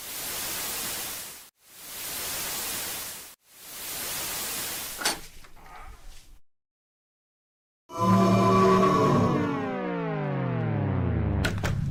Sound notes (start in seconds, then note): 0.0 ghostly sizzling; 5.0 door opens; 7.8 ghost. voices. idk man